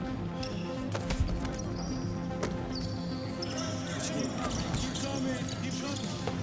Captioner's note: tennis shoes squeaking